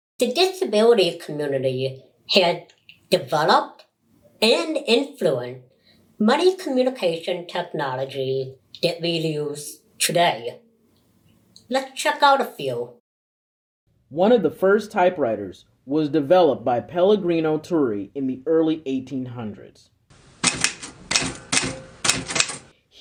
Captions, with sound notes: The disability community has developed and influenced many communication technologies that we use today. Let's check out a few. (Voiceover) One of the first typewriters was developed by Pelligrino Turri in the early 1800s. (Typewriter keys pounding)